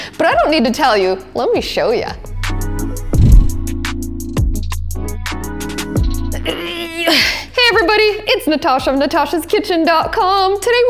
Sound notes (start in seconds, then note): 4.0 upbeat music; 6.4 grunts